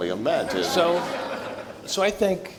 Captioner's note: audience laughs